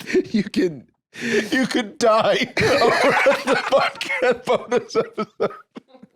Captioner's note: laughing